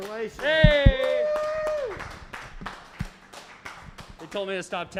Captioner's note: applause